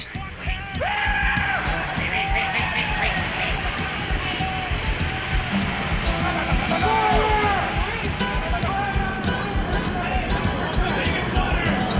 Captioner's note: shouting